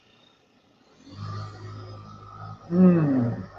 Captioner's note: Myobuddy buzzing